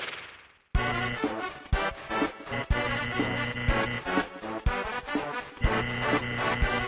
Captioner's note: static buzzing; wacky music